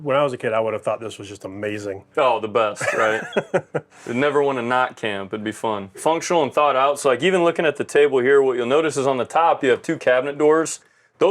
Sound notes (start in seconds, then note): 2.8 laughs